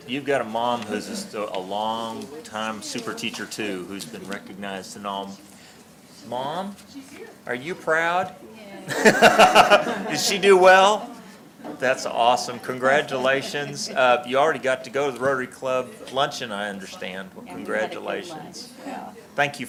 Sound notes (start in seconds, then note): 8.8 laughs; 8.8 laughter